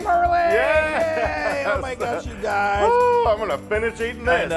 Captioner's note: laugh